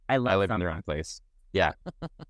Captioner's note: laughs